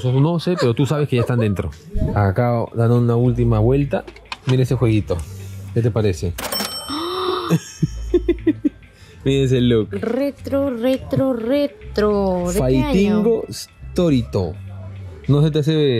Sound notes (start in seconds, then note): 7.2 laughs